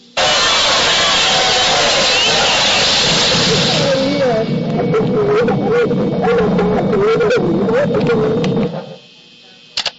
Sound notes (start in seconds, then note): 1.2 music & crowd noise; 2.9 boom; 3.4 ringing sound